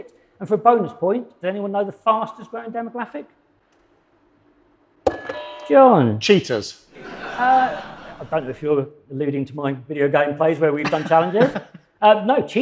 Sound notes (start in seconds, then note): 5.1 doorbell; 6.9 audience laughs